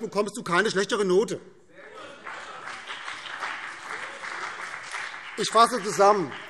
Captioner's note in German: Beifall BÜNDNIS 90/DIE GRÜNEN und CDU